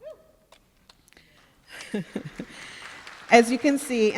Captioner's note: applause